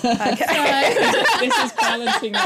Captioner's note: laughter; laughing